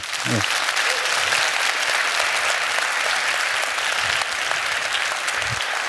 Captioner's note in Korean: 박수와 환호